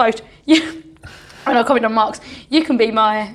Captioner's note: laughs